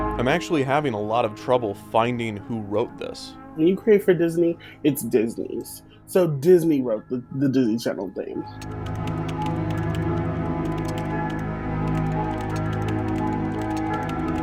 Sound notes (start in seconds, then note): 0.0 somber music; 8.5 keys typing